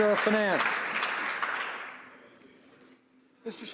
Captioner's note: some Applause